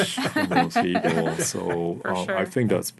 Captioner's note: laughing